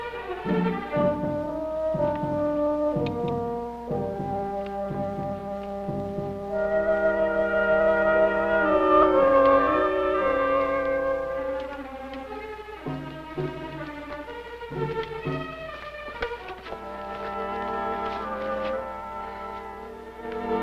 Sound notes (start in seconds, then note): 0.0 suspenseful music; 2.1 brass music; 11.6 rustling